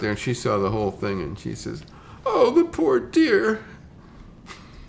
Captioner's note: chuckles